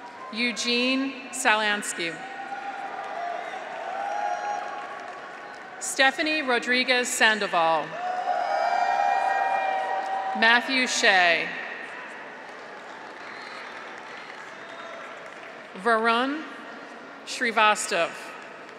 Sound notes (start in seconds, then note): 0.0 audience applauds; 0.0 graduates cheer; 2.2 graduates cheer; 2.7 audience applauds; 7.9 graduates cheer; 12.0 audience applauds